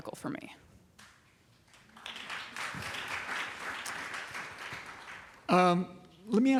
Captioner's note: applause